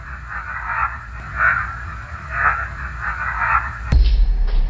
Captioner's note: ghostly voice